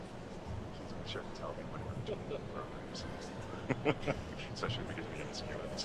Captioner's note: speaks faintly